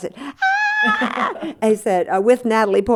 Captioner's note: laughter